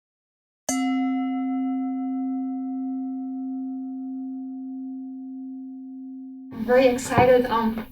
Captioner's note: bell rings